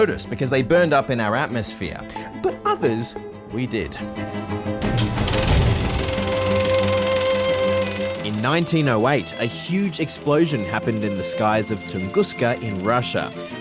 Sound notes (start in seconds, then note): 5.9 projector whirrs